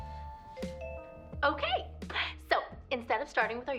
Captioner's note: ringing